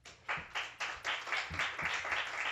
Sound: applause

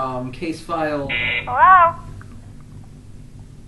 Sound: buzz

